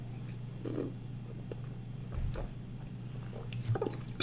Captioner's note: wine slurps